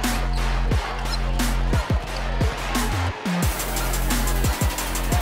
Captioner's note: sneakers squeaking